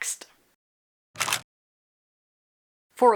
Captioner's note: camera shutter